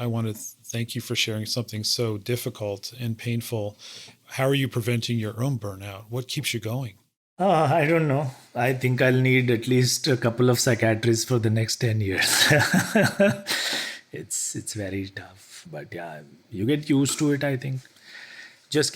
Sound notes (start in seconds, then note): 12.2 laugh